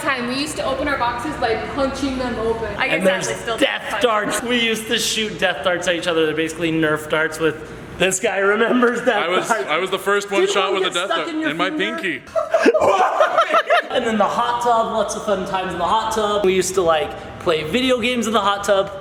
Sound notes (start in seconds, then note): 12.2 both laughing